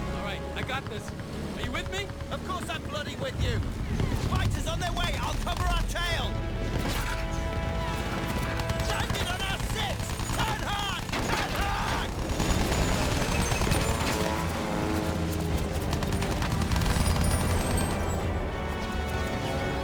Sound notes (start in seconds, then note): 12.7 gun fires; 19.5 dramatic music